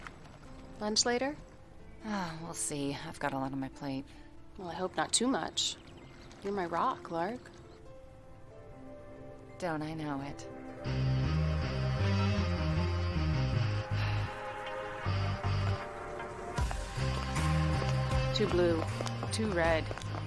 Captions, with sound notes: -Lunch later? -Ah, we'll see. I've got a lot on my plate. Well, I hope not too much. You're my rock, Lark. [soft music] Don'n't I know it. [intense music] [sighs] Too blue, too red.